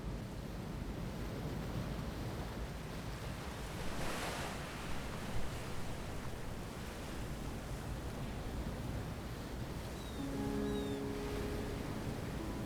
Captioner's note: wind Blowing